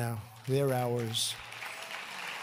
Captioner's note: applause